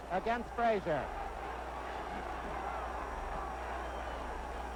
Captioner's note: crowd cheers